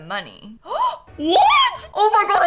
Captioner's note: gasp